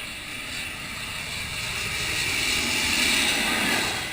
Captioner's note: plane whooshing